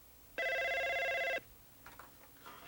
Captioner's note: telephone rings